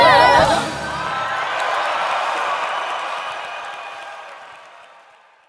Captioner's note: audience applauding